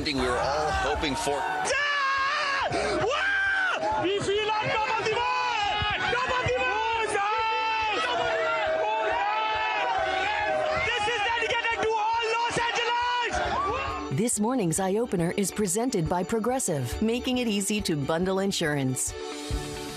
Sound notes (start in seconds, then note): 6.5 screams; 14.1 cheers